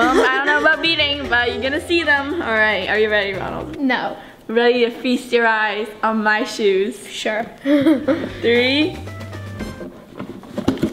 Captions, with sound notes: - I don't know about beating, but you're gonna see them. All right, are you ready, Ronald? - No. - Ready to feast your eyes on my shoes? - Sure. (laughs) - Three.